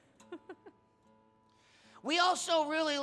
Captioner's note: laughing